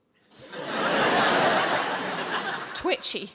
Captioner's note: audience laughing